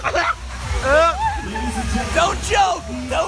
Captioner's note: chokes